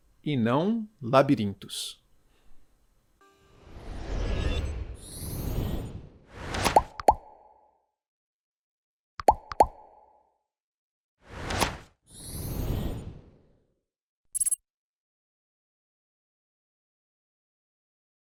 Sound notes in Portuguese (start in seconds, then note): 5.0 som de transição